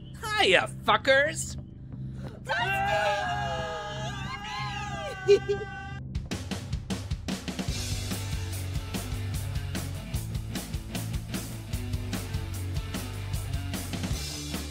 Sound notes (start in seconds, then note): 2.4 Jimmy and Will screams; 7.6 metal music